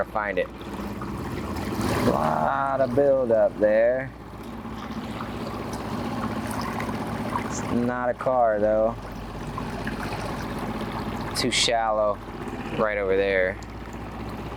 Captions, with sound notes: we're gonna find it. (boat rustling) Lot of build up there. (boat rustling) It's not a car though, too shallow right over there.